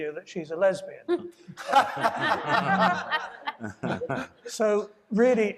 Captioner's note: audience laughing